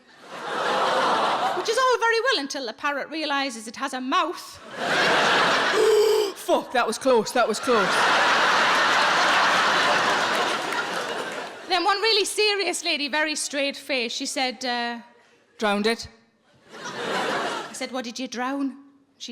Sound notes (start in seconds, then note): 0.0 audience laughing; 4.6 audience laughing; 5.7 Sarah gasping; 7.4 audience laughing; 16.6 audience laughing